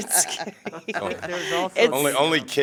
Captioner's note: laughter